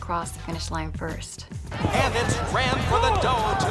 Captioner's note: racetrack Announcer